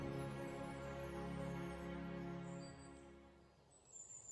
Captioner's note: birds tweeting softly